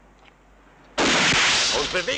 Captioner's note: gun fires